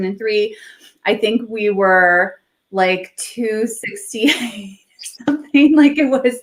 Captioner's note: laughs